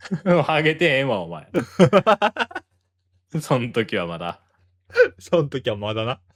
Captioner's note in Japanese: 笑い